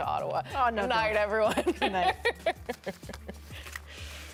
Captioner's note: laughter